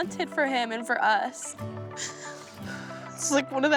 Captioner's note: sobbing